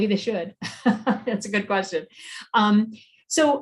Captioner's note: laughs